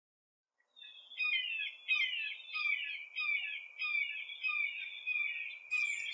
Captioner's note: hawk calls